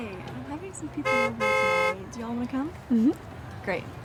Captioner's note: car honking